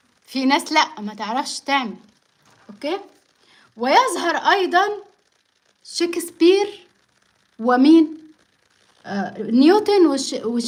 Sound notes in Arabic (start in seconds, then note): none